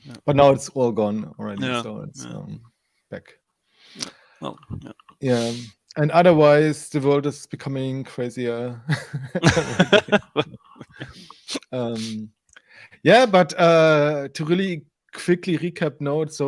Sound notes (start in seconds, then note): 8.9 laughs